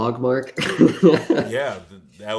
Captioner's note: laughs